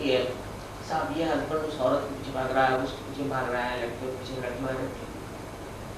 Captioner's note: hindi